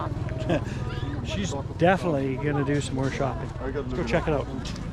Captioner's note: laughs